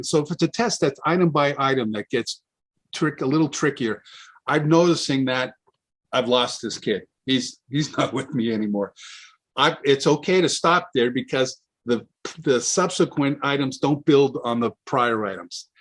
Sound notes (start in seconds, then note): 7.9 chuckles